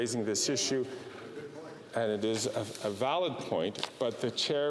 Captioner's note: off mic